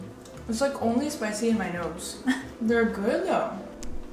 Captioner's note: laughs